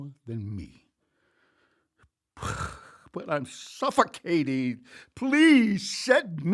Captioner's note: sighs